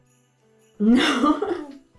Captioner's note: laughs